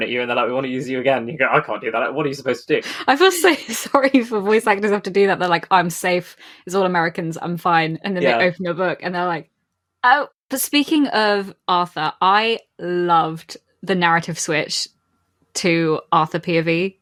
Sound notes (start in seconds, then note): 3.0 laughing